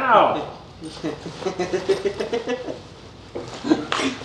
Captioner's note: laughs